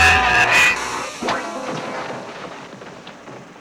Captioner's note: thudding